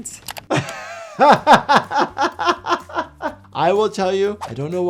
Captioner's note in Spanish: riendo